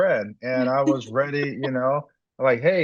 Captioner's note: laughs